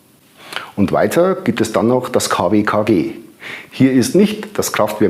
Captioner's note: in German